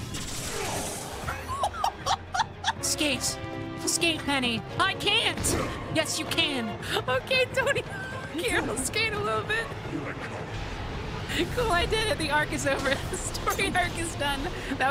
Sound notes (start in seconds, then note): 1.3 laughter; 6.7 laughing